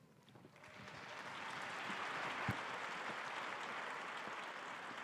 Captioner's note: audience applauding